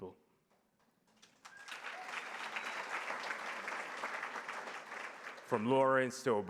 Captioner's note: applause